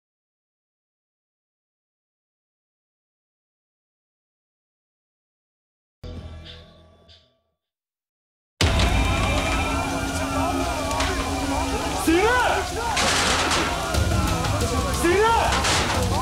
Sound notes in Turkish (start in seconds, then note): 8.6 İtfaiye sireni çalıyor